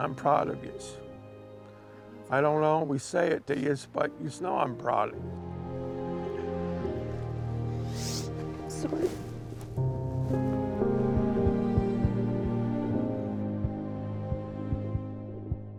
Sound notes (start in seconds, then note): 6.0 somber music; 7.9 sniffles; 10.1 somber music